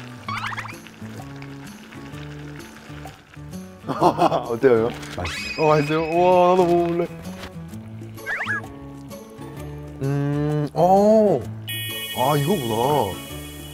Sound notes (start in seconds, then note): 8.1 slurp